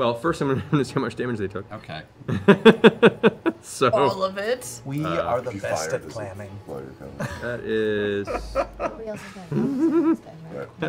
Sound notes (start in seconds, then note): 2.3 laughing